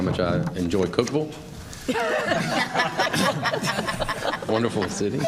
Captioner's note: laughter